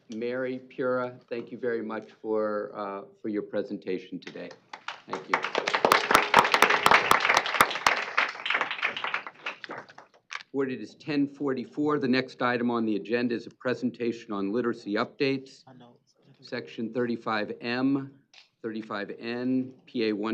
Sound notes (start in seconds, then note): 6.7 applause